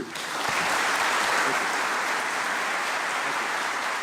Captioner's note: applause